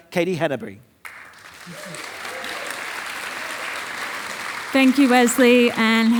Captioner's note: audience applauding